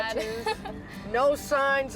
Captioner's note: laughing